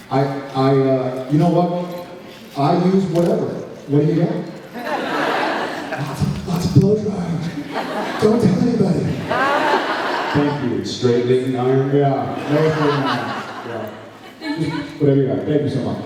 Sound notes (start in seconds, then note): 4.7 laughs; 5.9 whispers; 9.0 laughs; 12.2 laughs